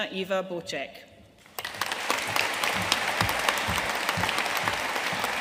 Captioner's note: audience applauding